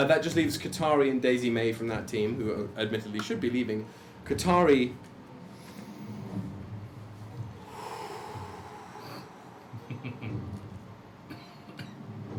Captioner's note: calming breath